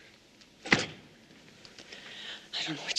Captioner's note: slams hand down